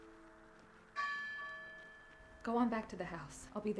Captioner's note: bell tolling